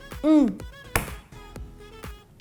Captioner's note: smacks table with hand